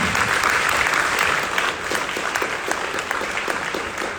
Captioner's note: audience applauding